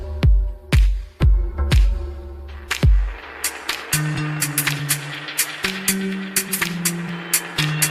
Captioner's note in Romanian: Aplauze